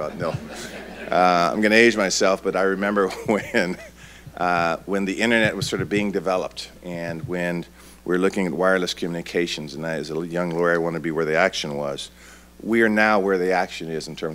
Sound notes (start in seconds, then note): 0.0 audience laughing